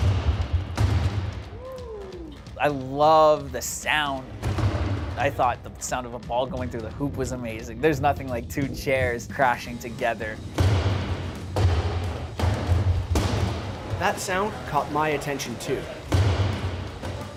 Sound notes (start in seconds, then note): 3.9 crash; 10.4 chairs crashing